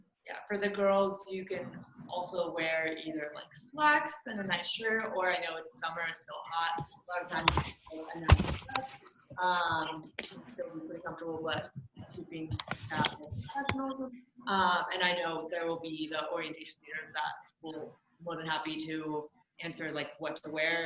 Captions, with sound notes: - Yeah, for the girls, you can also wear either slacks and a nice shirt, or I know it's summer, it's still hot, lot of times (murmurs) still be really comfortable (murmurs) and I know there will be the Orientation Leaders that will be more than happy to answer what to wear